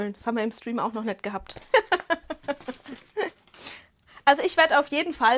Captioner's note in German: Gelächter